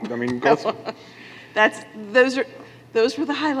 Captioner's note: laughs